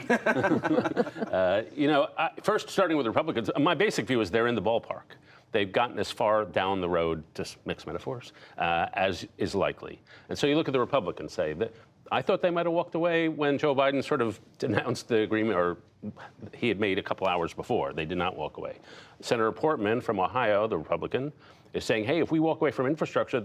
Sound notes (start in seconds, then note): 0.0 laughter